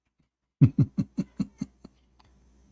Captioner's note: Ketawa